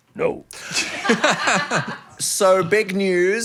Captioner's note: group laughing